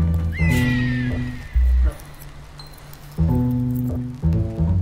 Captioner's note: falcon screeches